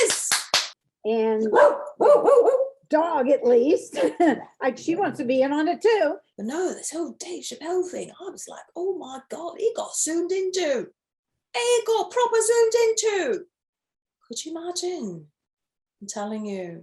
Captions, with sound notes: and (barking) dog at least! She wants to be in on it too! But no this whole Dave Chappelle thing I was like oh my god, he got zoomed in to! He got proper zoomed into! Could you imagine? I'm telling you,